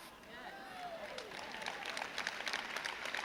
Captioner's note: crowd cheers